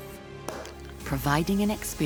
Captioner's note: cork popping